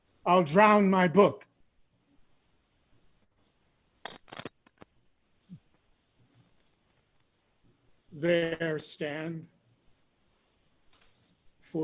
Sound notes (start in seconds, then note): none